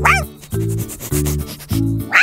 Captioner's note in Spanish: olfateo